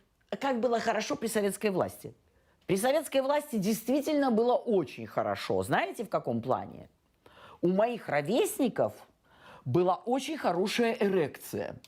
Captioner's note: speaking russian